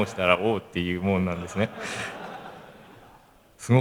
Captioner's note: laugh